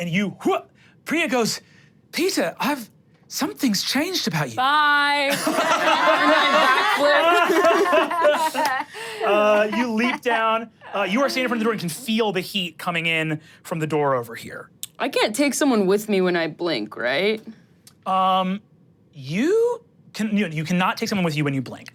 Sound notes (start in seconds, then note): 5.3 everyone laughs